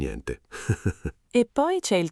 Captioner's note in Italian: Haha